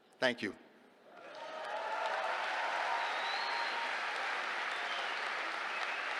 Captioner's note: cheers, applause